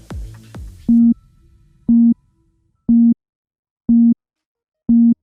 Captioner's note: electronic beeping